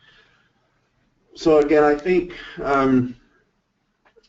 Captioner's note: voiceover